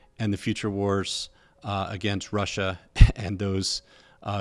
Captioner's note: laughs